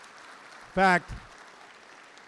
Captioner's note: applause